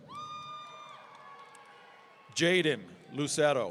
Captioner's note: audience cheering